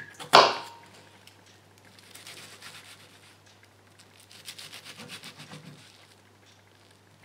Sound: slicing

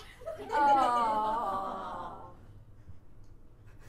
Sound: audience: "Awwww!"

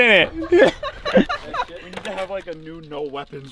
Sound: laughing

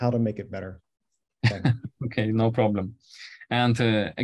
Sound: chuckles

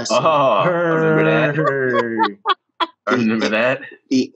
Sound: laughs

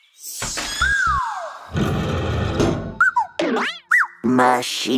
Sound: chirping

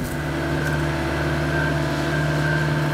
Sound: engine noise

